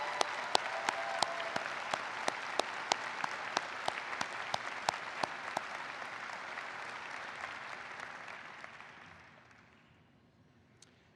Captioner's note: applause